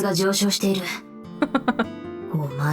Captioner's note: chuckles